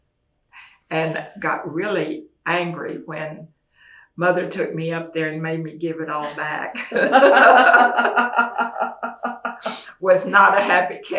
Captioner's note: laughter